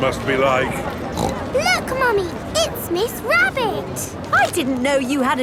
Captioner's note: snorts